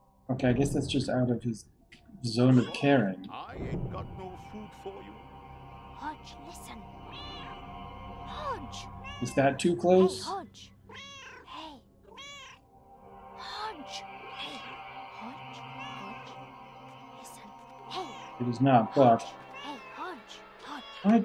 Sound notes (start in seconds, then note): 0.0 Hodge meowing; 7.0 Hodge meows; 12.0 Hodge meows; 19.2 Hodge meows